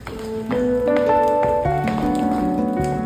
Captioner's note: footsteps